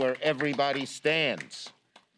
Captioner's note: applause